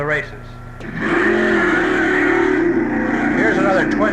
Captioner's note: engine roaring